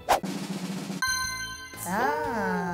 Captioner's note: drum roll; dings